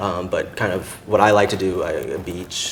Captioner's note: stammers